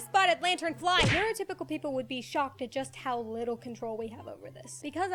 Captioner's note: splat!